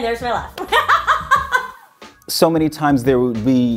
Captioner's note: laughs